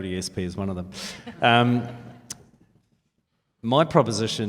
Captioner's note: laughs